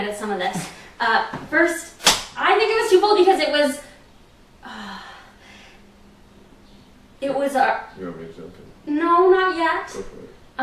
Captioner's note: sighs